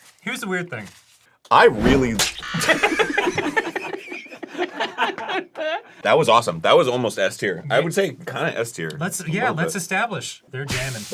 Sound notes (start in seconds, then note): 2.0 everyone laughs; 2.1 squish & buzzer